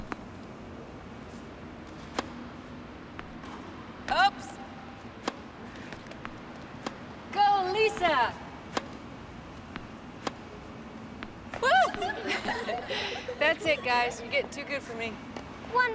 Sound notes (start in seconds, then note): 11.6 girls giggle; 11.6 Cassie screams